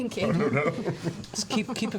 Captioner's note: laughs